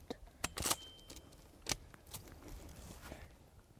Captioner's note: gun clinking